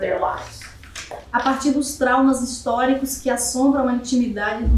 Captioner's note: speaking portuguese